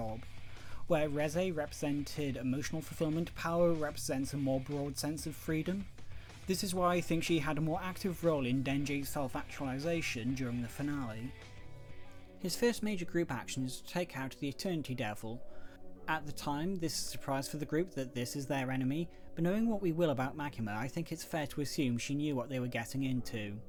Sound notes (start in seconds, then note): none